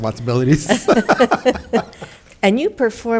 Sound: board members laughing

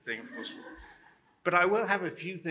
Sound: laughter

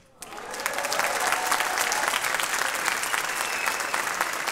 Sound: audience applauding

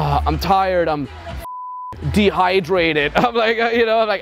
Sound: beep

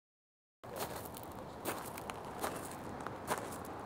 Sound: footsteps

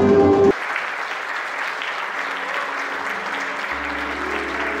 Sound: audience applause

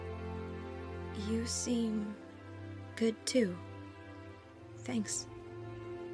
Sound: shyly

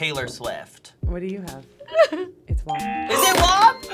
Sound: laughing nervously

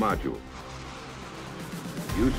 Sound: jet flying

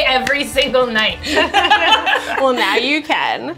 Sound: laughter

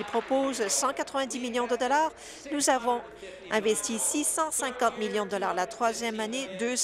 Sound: applause

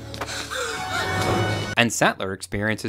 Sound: Tim gasps

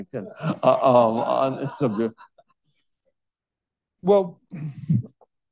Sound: all laughing

